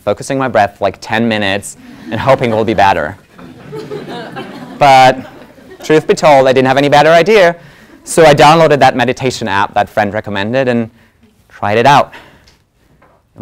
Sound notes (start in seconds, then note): 1.6 laugh